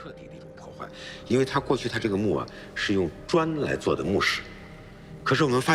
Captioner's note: speaking in foreign language